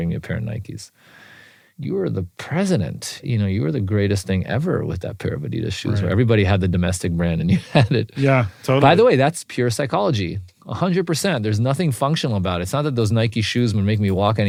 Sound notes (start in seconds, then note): 7.4 laugh